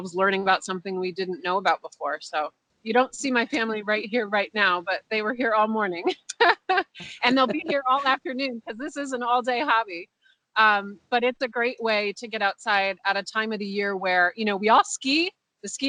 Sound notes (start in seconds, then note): 6.9 laughs